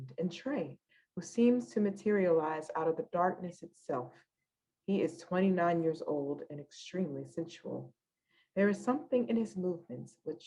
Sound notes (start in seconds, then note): none